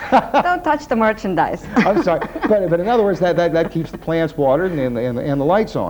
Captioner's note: laughter